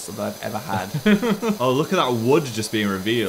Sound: laughs

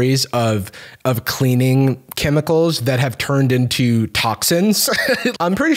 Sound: laughs

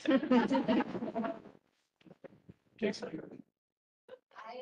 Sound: audience laughing

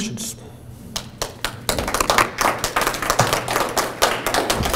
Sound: audience clapping

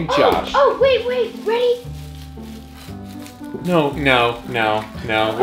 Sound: gasps

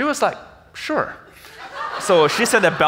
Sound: audience laughs

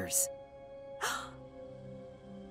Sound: gasps

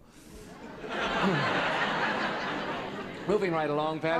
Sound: laughter

